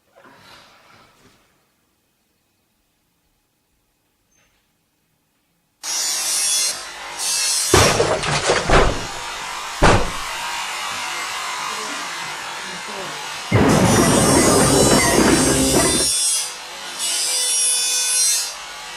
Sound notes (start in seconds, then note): 5.8 loud noises and drilling